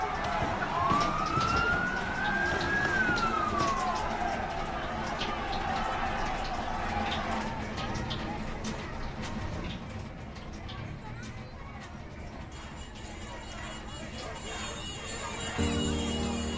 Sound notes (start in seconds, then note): 0.2 city bustle; 7.7 running water